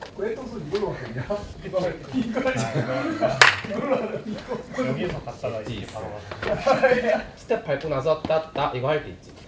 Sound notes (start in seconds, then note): 7.0 haha